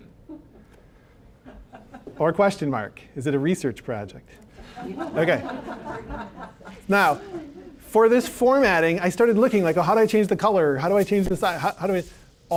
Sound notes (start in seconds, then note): 4.6 audience laughing